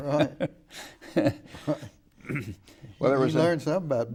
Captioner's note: laughing